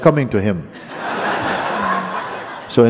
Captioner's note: laughter